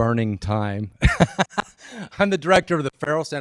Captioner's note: laughs